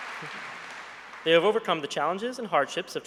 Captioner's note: applause